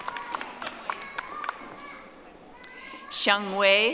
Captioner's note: audience applauding